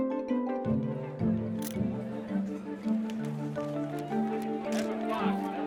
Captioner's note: crowd chattering